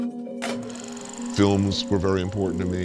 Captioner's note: film reel whirs